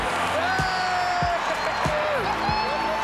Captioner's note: crowd cheers